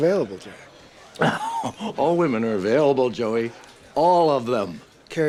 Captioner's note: laughs